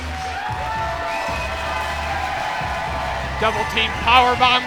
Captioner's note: crowd cheering